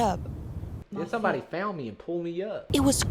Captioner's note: southern accent